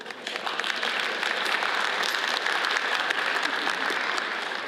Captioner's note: audience applauds